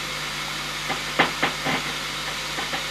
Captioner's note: knock